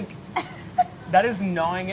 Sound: laughing

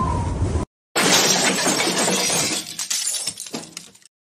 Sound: crash!

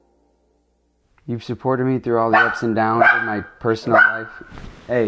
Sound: Tito barking

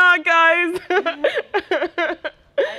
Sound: laughs

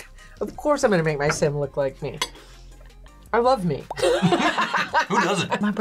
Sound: laughs

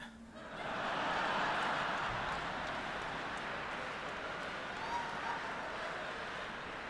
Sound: laughter

